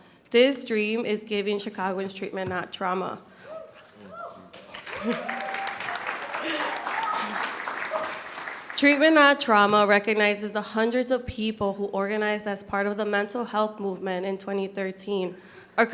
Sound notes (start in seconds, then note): 4.5 audience clapping